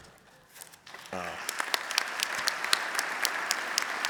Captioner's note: applause